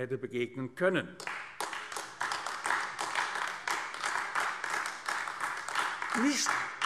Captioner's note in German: Beifall AfD